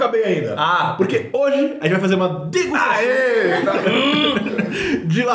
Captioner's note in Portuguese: risos